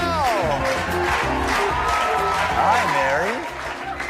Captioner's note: slow handclapping and cheering